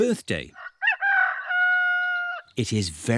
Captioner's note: roster crows